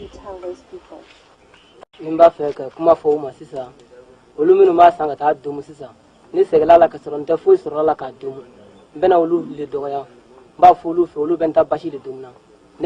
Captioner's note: non-english speech